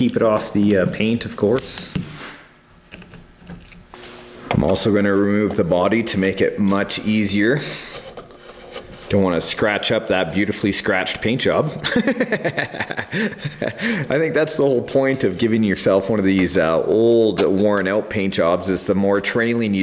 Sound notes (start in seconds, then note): 11.8 laughing